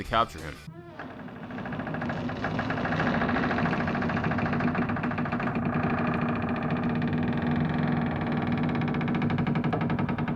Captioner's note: door creaks open